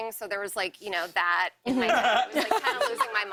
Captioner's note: laughter